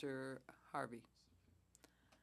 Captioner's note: speaking French